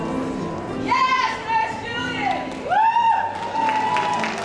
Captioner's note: cheering